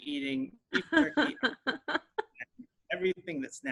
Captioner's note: laughing